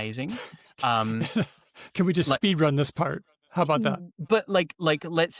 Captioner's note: chuckles